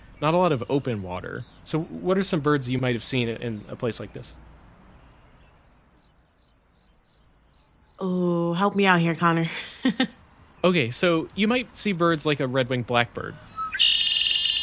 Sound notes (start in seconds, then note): 8.4 crickets